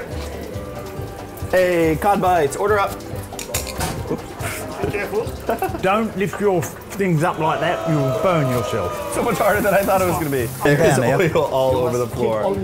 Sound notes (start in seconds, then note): 5.1 pops; 5.9 laughs; 6.7 pops